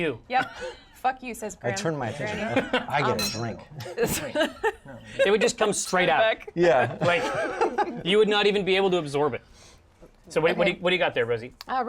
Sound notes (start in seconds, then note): 3.8 laughter; 7.5 laughs